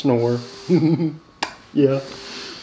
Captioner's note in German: lacht